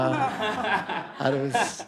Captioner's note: audience laughs